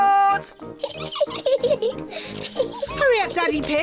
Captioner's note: giggling